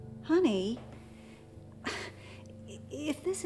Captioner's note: sighs